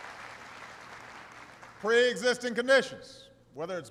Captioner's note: applause